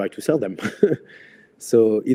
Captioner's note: laughs